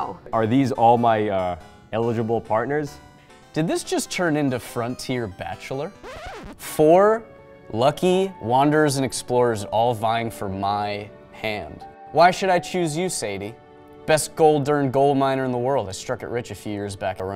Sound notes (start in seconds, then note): 6.0 record scratches; 7.0 dramatic, romantic music